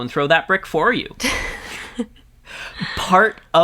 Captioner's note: both laugh